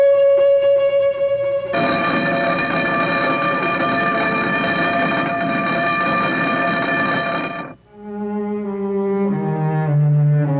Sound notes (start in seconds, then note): 1.7 doorbell blaring; 7.9 somber music